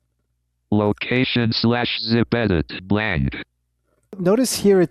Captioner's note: automated Voice